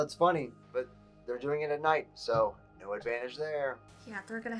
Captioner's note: on phone